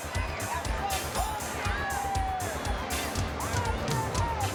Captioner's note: fans shouting